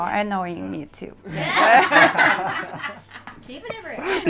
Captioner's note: all laugh